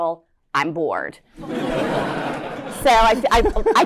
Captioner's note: laughter